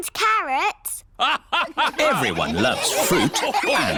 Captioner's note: all laugh